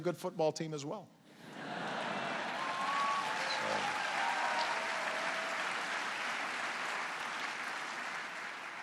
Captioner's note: laughter and applause